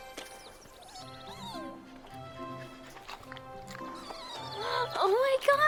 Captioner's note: playful music; puppy whimpering